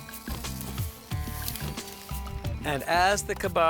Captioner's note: kebabs sizzle